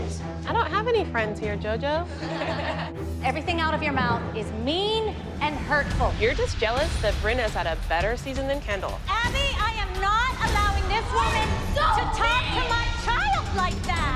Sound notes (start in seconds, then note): 2.1 laughter